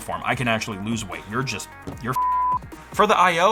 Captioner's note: beep